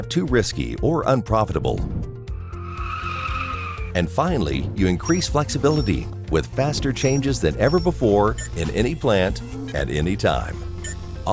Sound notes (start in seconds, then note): 2.4 car tires screeching